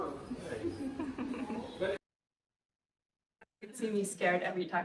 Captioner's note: laughs